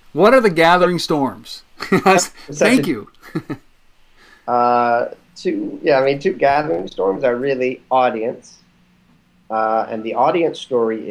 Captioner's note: laughs